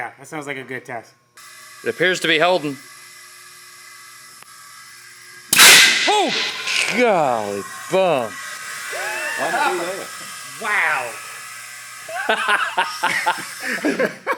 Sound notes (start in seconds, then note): 1.6 air gushing; 5.5 cannon fires; 9.0 laughs loudly